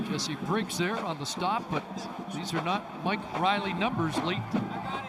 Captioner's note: whistle